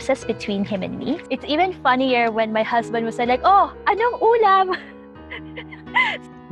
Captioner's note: speaks in Filipino; laughter